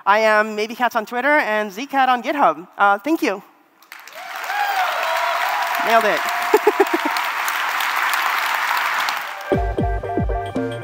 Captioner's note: cheering and applause